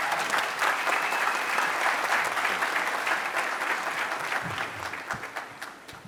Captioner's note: applause